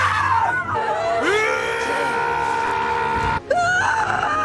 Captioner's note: screaming